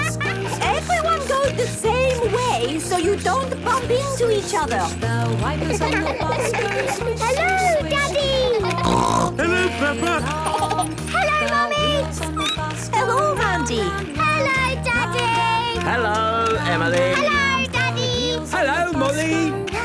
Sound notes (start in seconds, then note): 0.0 laughter; 5.5 laughter; 8.4 snorting; 10.2 laughter; 12.4 squeaking